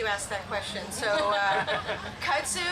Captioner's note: group laugh